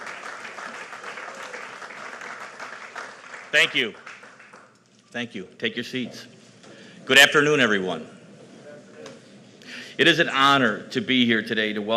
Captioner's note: applause